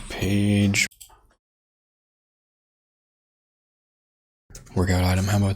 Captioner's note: blank Audio